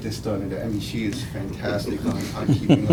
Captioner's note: all chuckling